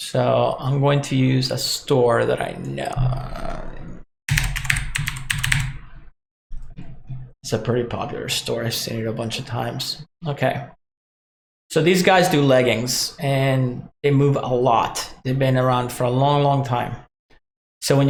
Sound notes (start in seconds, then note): 4.3 typing on keyboard